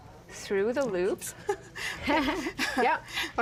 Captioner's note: laughing